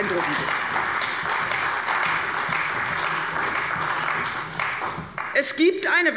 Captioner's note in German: Beifall bei der CDU